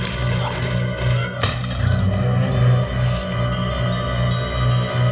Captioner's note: glass shatters